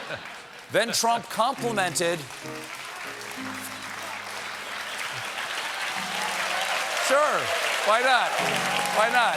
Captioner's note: applause